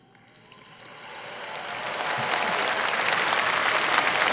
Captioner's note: applause